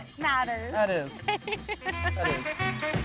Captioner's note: laughing